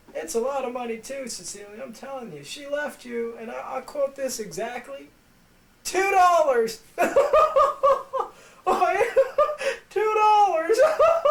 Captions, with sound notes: It's a lot of money too Cecilia. I'm telling ya, she left you and I quote this exactly Two Dollars!! [Hysterical laughing] Ha, ha, woo, who, woo! Two dollars!